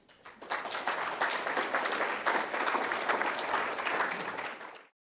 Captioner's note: audience applauding